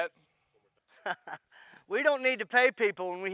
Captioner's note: chuckles